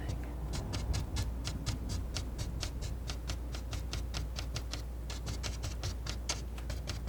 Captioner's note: tapping